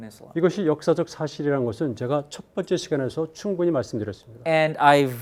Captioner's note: speaking in Korean